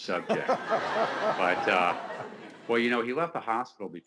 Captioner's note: laughing